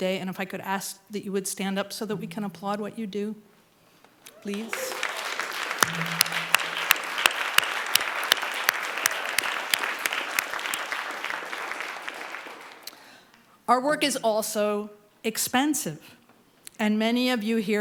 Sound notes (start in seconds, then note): 4.4 applause